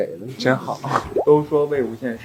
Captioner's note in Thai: ประชด